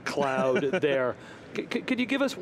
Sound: laughs

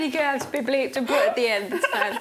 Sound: laughing

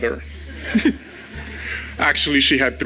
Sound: crowd laughs

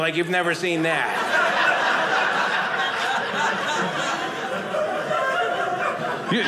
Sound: audience laughing

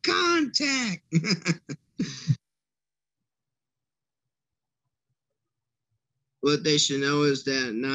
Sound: laughter

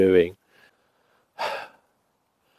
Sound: sighs

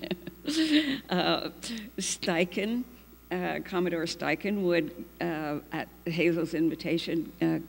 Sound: laughs

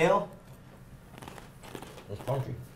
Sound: crunching

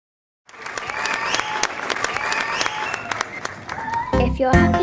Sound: audience applauds

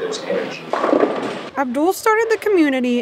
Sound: bowling pins clacking

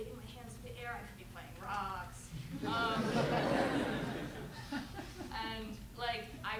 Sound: laughter

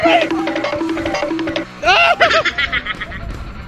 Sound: timer counting down; laughs

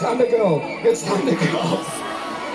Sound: laughing

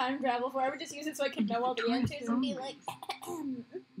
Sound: clearing throat noise

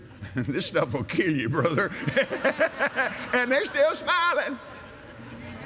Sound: laughs; laughter

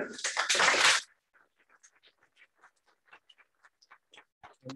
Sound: applause

